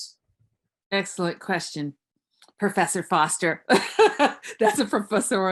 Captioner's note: laughs